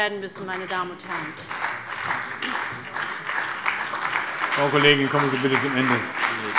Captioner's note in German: Beifall bei der SPD